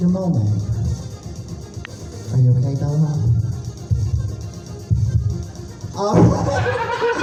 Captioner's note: heartbeat noise; laughs